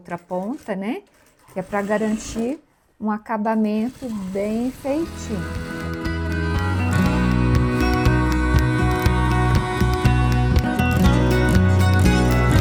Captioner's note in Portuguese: Aplausos